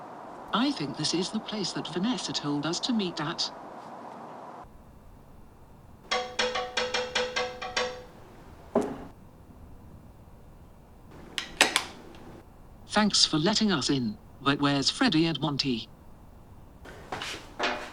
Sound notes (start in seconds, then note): 6.0 Roxanne Wolf banging on the glass; 8.7 thump; 11.2 light switch click